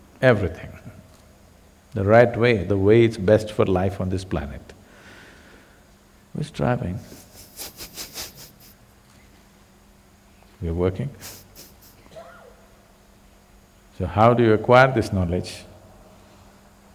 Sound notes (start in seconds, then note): 7.0 laughs